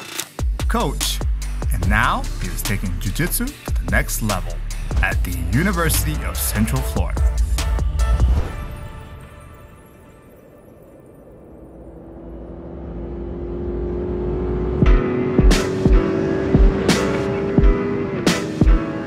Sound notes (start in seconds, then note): 11.4 car engine roaring; 12.8 upbeat music